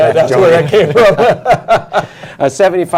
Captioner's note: laughter